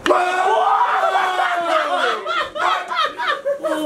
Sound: laughs

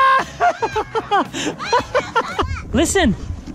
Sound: laughs

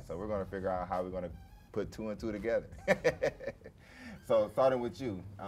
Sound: laughs

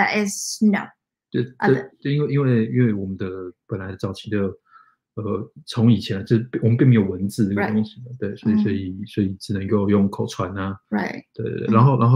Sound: speaks mandarin

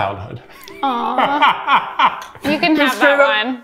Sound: laughing; laughs

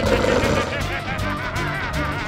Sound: growls; laughing

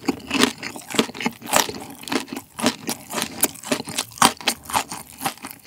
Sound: crunchy crunchy

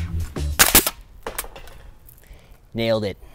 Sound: nail gun shoots

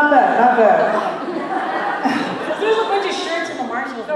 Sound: laughter

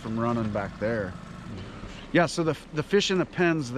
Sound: boat engine idling

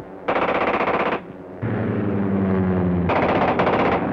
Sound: gun popping sounds

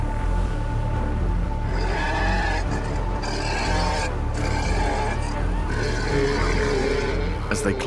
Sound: roars

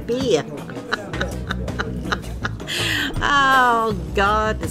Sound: laughs

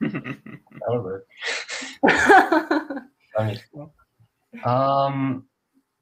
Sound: laughing

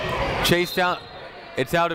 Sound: people shouting in the crowd; whistle tweeting

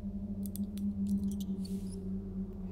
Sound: mouse squeaking

